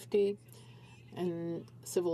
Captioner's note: speaking french